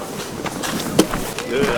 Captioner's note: water splashing